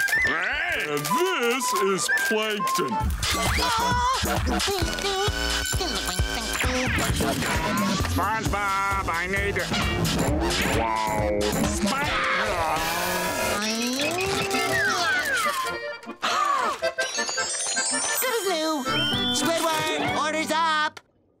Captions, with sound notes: And this is plankton. [yelling] [humming] SpongeBob, I need-- Whoa. [yelling] Good as new! Squidward, orders up!